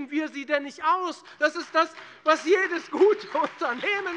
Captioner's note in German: Beifall bei der FDP und der SPD